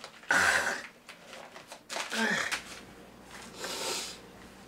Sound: Cathelaya grunts

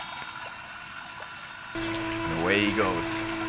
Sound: water lapping; motor buzzing

